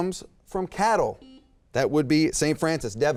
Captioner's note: beep